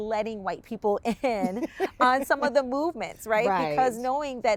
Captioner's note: laughs